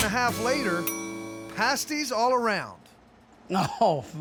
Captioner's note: bell dings